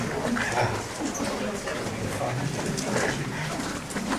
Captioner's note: people Talking